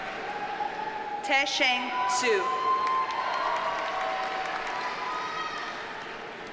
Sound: audience cheers and applauds

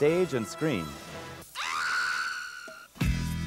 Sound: scream

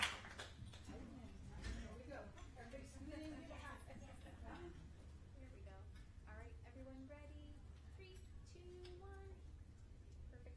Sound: applause

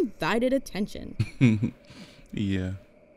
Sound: chuckles

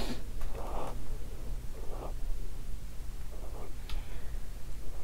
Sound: cat snorting

